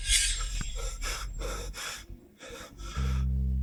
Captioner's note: sigh